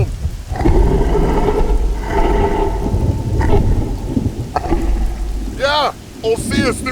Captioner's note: deep bellowing breaths and clicking sounds